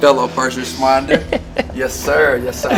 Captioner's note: laughter